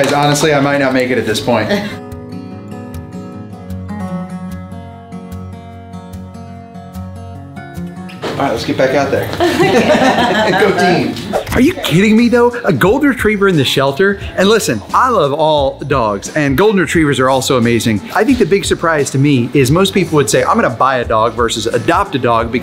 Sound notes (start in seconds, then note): 2.0 calm music continues; 9.3 group laughs; 11.8 screen swooshes